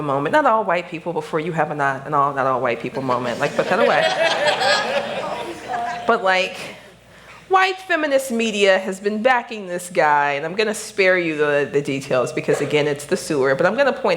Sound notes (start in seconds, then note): 3.5 laughter